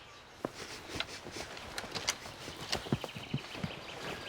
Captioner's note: sniffing